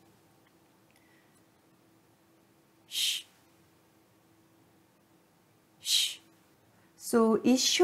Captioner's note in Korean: 쉬 소리